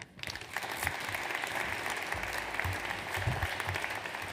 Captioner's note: audience applauds